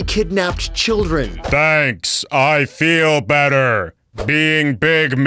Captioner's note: robot voice